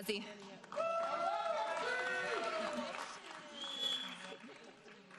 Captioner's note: audience applauding